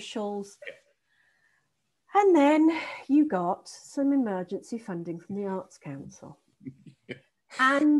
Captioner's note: sighs; laughing